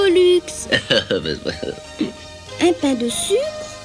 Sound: chuckles

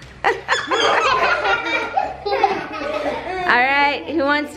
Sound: all laugh

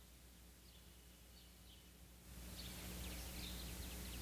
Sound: birds chirping

